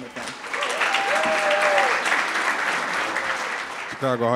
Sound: audience cheering

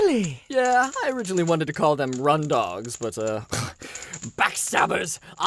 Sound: scoffs

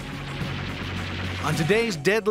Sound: gun shot

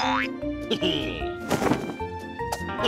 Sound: laughs

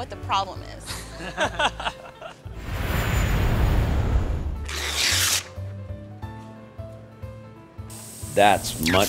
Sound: laughter and sound effects

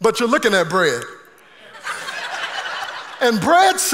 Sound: congregation laughing

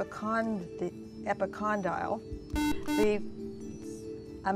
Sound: buzzer

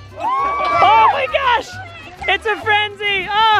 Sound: bat clinks; cheers; laughs

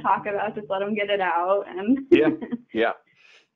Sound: laughing

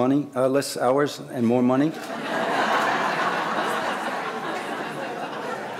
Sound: audience laughing

